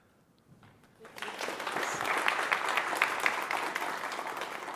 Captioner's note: applause